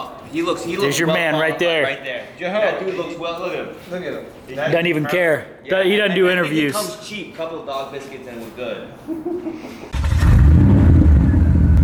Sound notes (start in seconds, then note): 9.9 car Engine Revving